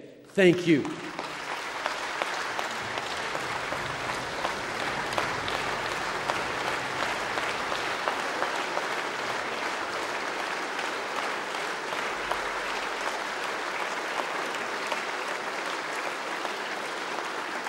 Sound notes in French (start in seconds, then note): 2.2 Applaudissements